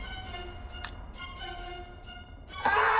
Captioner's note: suspenseful music; neck cracking; screaming